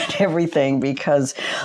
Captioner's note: chuckles